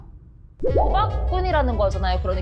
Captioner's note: sound effect: Confirming